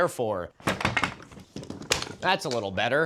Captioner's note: clattering